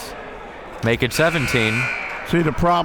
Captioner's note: buzzer blares